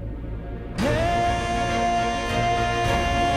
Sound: emotional vocalising

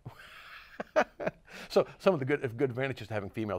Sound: laughs

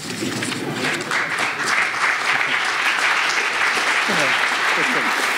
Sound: audience applauds

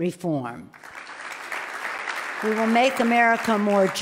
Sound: loud clapping

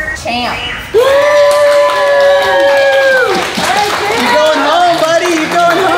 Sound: staff cheering

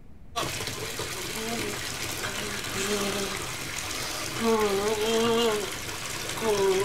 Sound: water splashing; groans

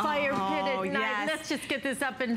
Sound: laughter

